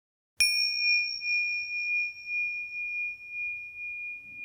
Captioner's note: bell chiming